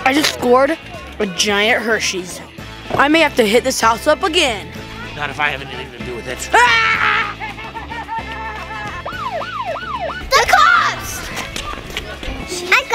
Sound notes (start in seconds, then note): 9.1 toy police siren wails